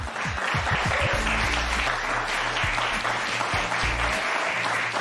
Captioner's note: applause